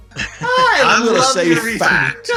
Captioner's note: chuckling